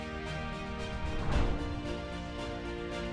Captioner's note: gentle music continues; transition whooshing; gentle music continues